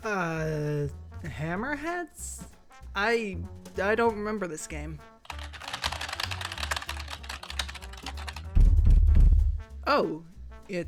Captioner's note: black screen & keyboard clacks